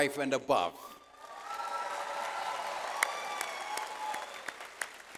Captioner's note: audience applauds